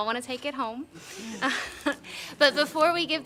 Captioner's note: laughs